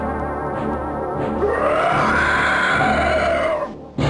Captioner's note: roar